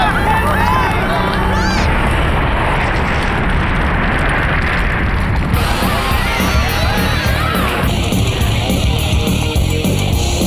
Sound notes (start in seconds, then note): 0.0 panicked shouts; 5.1 earthquake